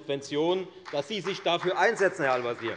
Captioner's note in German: Beifall bei der FDP